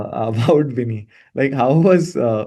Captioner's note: laughs